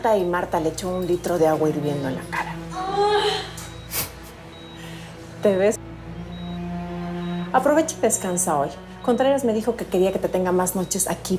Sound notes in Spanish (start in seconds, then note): 1.8 Gemidos